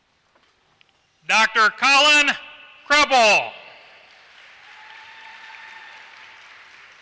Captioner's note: applause